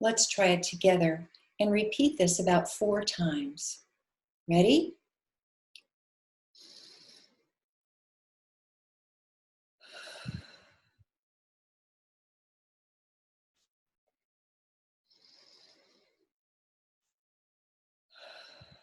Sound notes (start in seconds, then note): 5.8 sounds of slow breathing, in and out 4x